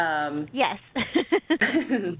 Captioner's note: laughs